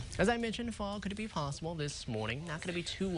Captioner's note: winds